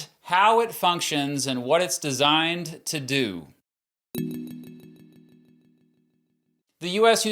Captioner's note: tune chiming